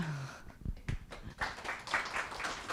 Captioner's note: applause